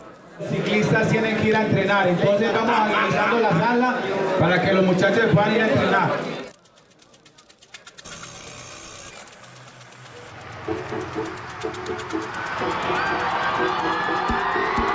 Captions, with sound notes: The guys need to go and train - please move to the side of the room. The guys need to train. [wheel buzzing] [crowd cheering]